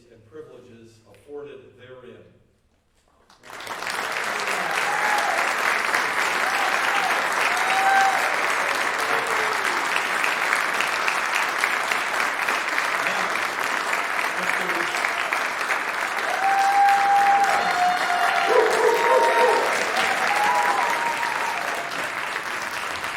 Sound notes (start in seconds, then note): 4.0 applause and Cheering